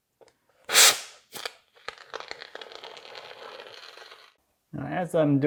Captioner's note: foam crackling